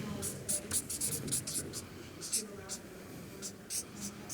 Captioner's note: marker squeaking